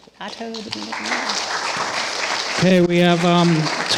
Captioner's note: applause